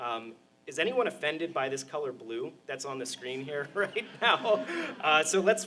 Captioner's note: laughter